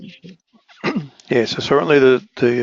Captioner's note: cough